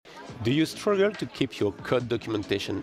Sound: crowd chattering

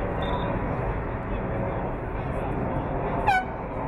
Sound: whistle blowing

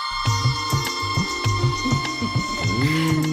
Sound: giggles

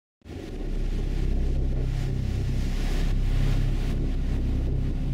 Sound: sounds of crashing waves

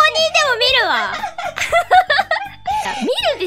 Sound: laughing

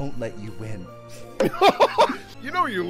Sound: laughter

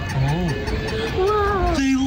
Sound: hat squeaking

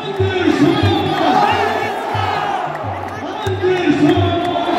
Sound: clap

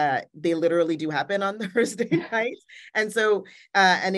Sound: laughing

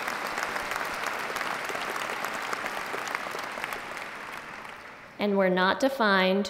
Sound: applause

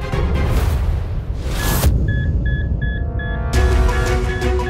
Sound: beeping

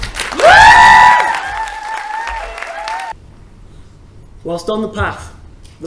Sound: applause

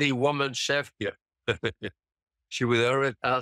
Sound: laughs

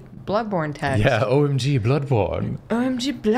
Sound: posh voice

